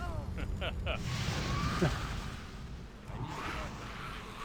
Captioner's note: laughs